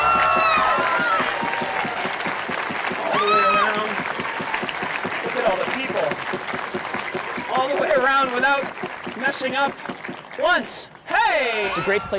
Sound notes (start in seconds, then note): 1.2 audience cheering and applauding